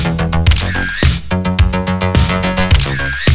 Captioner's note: camera shutter snapping; camera shutter snapping